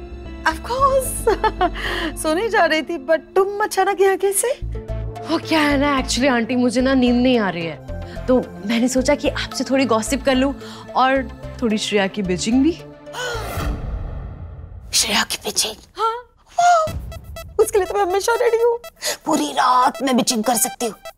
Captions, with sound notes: Of course, I was about to go to sleep. But what are you doing here at this hour ? Aunt, I'm unable to sleep, you see. So, I thought of gossiping with you a bit... ... and also criticise Shreya a bit [sighs] - Criticising Shreya ? - Yes. I'm always ready for that. I can criticise her all night.